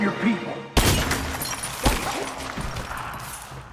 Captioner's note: gunfire